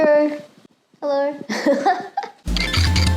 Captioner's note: laughs